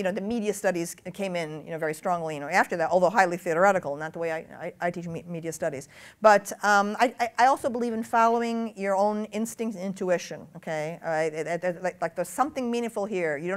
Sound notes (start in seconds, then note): none